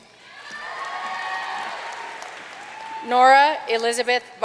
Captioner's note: audience cheering and applauding